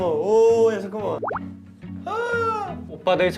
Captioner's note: tearing up